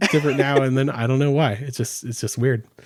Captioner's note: laughing